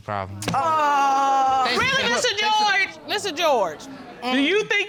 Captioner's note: sarcastically